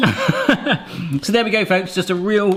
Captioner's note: laughs